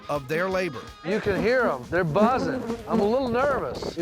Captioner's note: bees buzzing